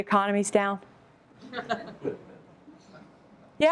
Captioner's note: laughter